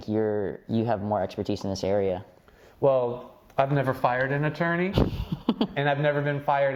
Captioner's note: chuckles